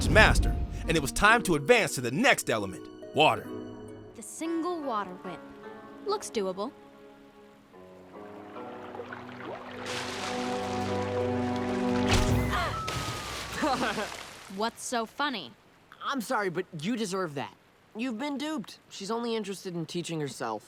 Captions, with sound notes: and it was time to advance to the next element, water. The single water whip... looks doable. [gasping] [chuckles] What's so funny? I'm sorry, but you deserved that. You've been duped. She's only interested in teaching herself.